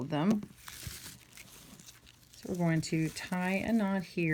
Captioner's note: raffia rustling